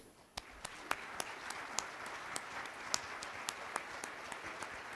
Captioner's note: applause